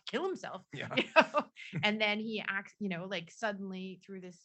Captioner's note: laughs